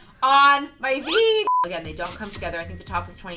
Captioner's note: beep